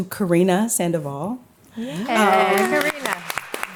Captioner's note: applause